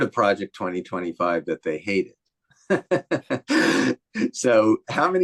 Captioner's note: laughs